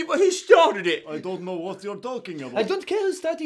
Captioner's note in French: accent russe